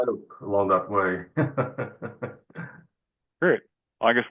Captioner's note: laughter